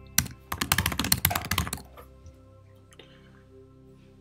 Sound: keyboard clicking

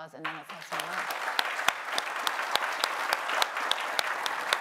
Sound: applause

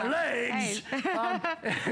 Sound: laughter

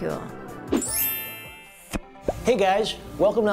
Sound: twinkling, then popping

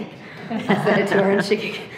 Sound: trustees laughing

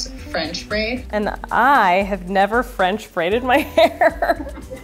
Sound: laughs

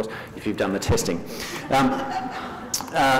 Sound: laughter

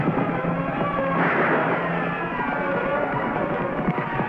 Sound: gun fires

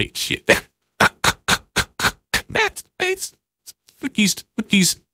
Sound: wheeze

